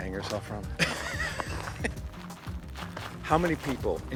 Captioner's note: laughing